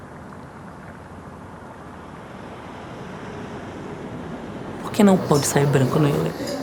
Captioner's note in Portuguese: som de carros